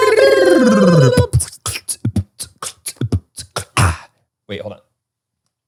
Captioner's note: beat boxes